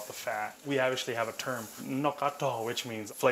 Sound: speaking in Hmong

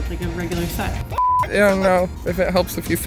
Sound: beep

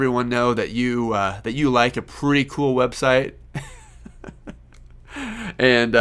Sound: laughing

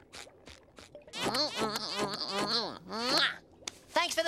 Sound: smacking

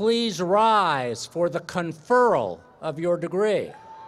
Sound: cheers and applause

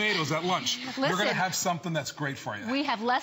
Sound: laughter

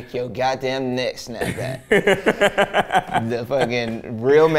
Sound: laughs

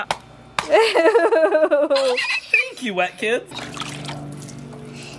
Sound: laughing

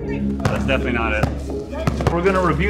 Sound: ball bouncing

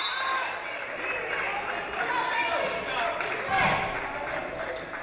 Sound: referee blows whistle; audience applauding

